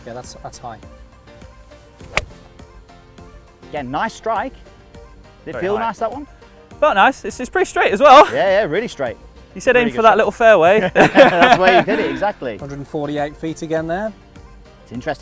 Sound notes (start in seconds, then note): 2.0 golf ball hits; 10.8 all laughing